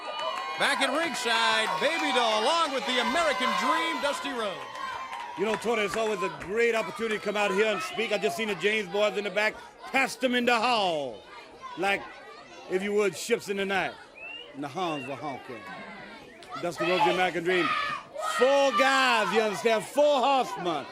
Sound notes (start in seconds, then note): 0.0 crowd cheering; 5.5 crowd cheering